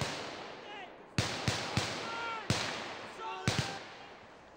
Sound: men shouting

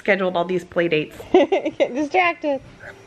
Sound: laughs

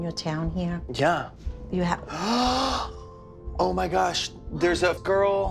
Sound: gasps

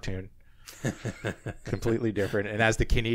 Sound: laughs

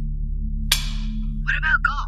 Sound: pop

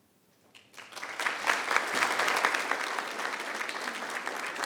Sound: people clapping

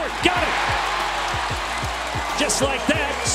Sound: crowd cheering

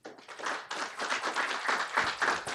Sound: applause

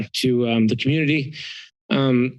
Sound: inhales

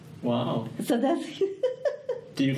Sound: laughs

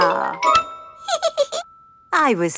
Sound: giggles

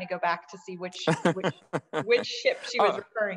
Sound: laughing

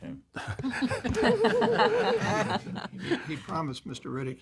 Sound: laughter

